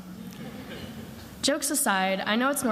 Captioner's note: attendees laughing